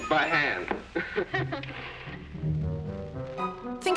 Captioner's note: chuckling